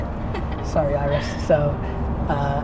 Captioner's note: she laughs